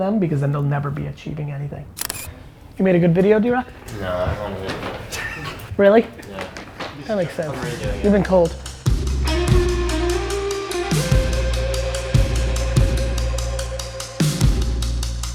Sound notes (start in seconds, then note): 3.2 laughs; 11.4 pulsing music